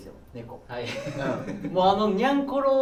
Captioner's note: laughs